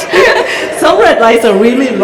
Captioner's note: laughter